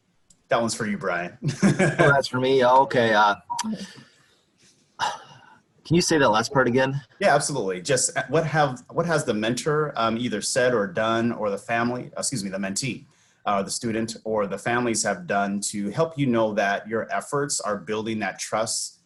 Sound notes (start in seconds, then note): 1.4 laughs